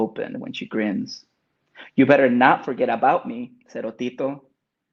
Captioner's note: speaks in Spanish